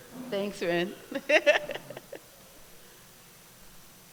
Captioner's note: laughs